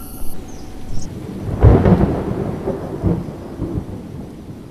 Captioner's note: jungle cock calling; thunder